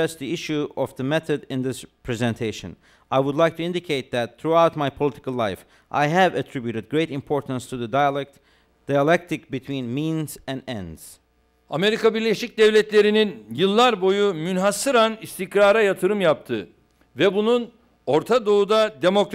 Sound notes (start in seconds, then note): 13.1 non-english speech